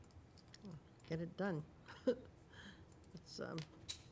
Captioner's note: chuckling